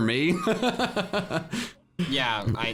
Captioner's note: laughs